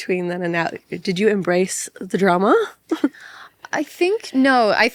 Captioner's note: laughs